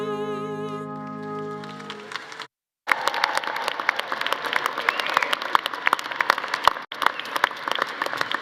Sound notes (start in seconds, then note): 1.2 audience applauding; 1.2 audience cheering